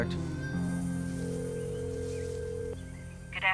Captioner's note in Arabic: اتصال هاتفي